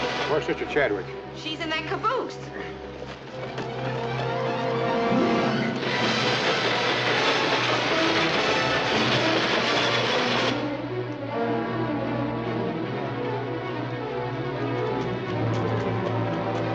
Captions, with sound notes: - Where's sister Chadwick. - She's in that caboose. [ TRAIN RUMBLING ] [ TENSE MUSIC ]